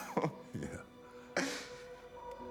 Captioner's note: laugh